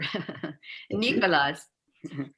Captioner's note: laughs